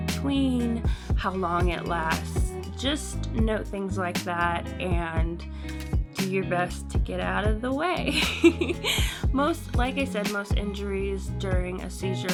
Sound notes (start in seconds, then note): 8.1 giggles